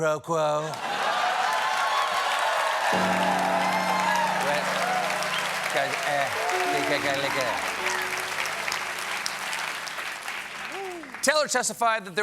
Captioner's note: cheers and applause